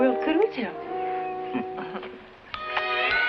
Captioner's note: laughing; soft music